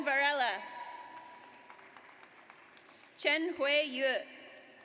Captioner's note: audience applauds